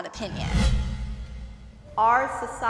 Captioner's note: dramatic whooshing